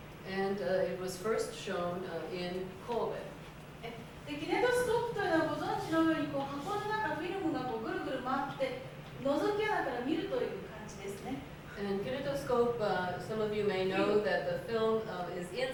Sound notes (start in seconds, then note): 4.4 speaking Japanes